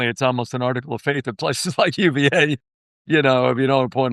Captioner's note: laughter